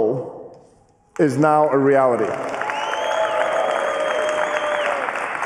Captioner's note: cheering and applause